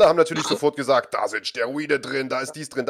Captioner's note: laughs